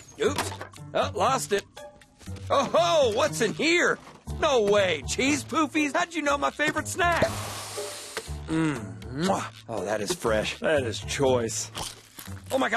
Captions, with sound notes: OOPS. UH, LOST IT. OH-HO! WHAT'S IN HERE? NO WAY! CHEESE POOFIES? HOW'D YOU KNOW MY FAVORITE SNACK? [ SNIFFS ] MMM, MWAH! OH, THAT IS FRESH. THAT IS CHOICE. [ CHOMPING ]